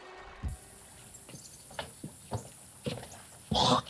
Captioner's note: Spencer coughs; Spencer spits